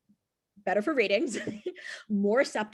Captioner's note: chuckles